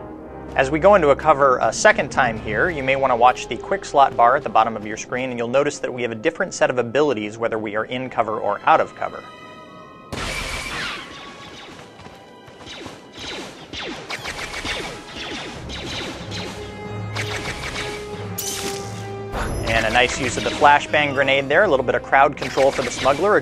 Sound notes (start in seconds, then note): 10.0 blaster fire